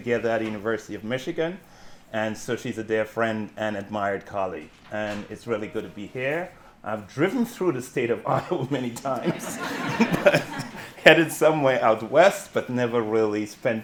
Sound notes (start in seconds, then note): 6.5 chuckles; 7.4 audience laughing; 8.4 chuckles